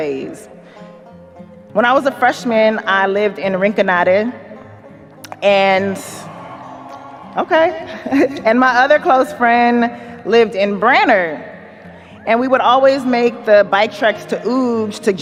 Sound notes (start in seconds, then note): 5.4 audience cheers; 7.7 chuckles